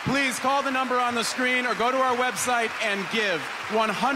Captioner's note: cheers and applause